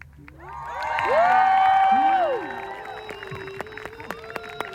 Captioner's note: applause and cheers